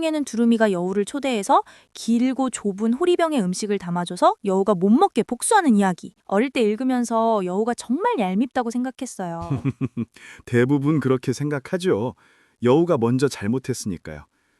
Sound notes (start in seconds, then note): 9.4 laughs